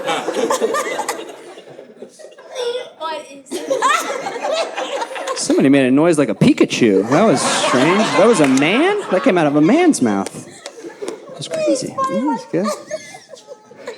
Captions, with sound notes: (audience laughing) Somebody made a noise like a Pikachu. That was strange, that was a man? That came out of a man's mouth. That's crazy, that was good.